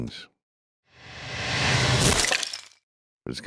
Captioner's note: dramatic crunching sound